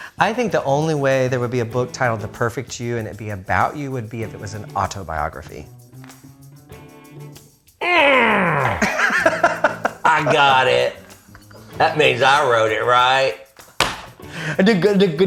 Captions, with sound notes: - I think the only way there would be a book titled "The Perfect You" that would be about you would be if it was an autobiography. - (groans) I got it. That means I wrote it, right?